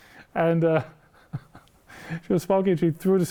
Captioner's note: laughing